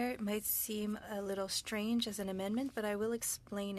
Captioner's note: speaking French